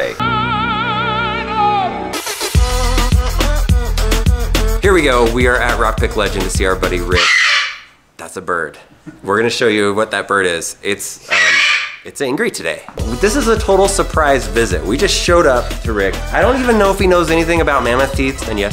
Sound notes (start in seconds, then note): 0.1 opera music; 7.1 bird squawks; 11.2 bird squawks